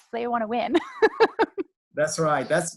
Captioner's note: laughs